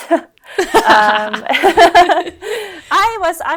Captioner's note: both laugh